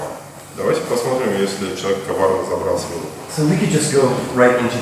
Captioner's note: speaking in a foreign language